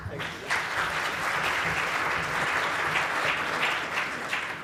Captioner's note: applause